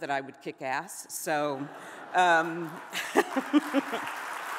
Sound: audience laughs and applauds; giggles

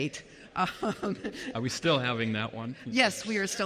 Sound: chuckles

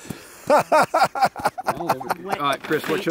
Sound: laughs

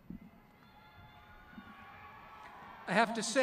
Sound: crowd cheering

